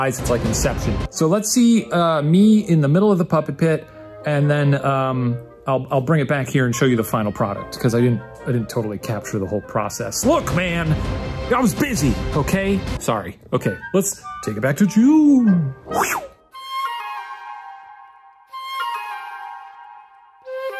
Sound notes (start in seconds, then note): 10.1 dramatic music; 16.1 whooshing; 17.3 bright cheerful music